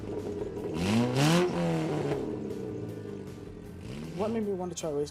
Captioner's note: motor revving